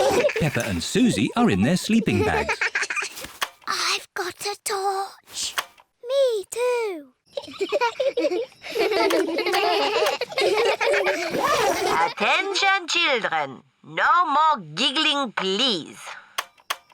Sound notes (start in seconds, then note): 3.7 whispering; 7.3 both giggle; 9.5 all giggling